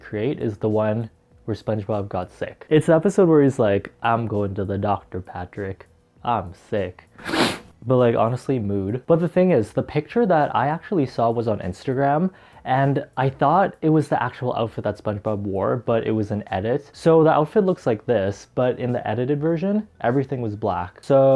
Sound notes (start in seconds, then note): 7.1 sniff